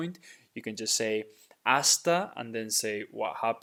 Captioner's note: speaking in Spanish